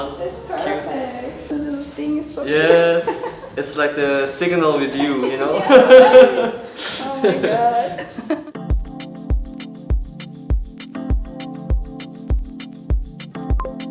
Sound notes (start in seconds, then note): 6.4 laughing; 7.9 lo-fi music